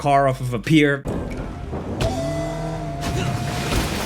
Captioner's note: dull music; car revving; water splashing; character grunts